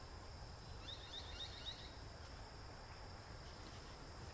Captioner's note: bird twitters